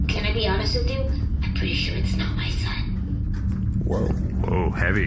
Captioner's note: whispering